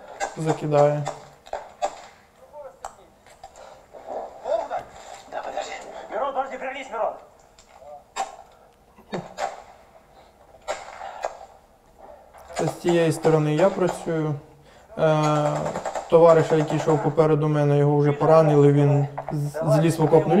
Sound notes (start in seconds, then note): 4.4 voices